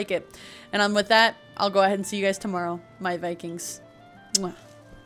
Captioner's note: kiss